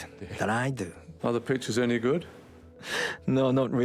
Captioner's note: voiceover